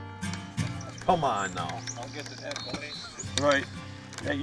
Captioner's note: voiceover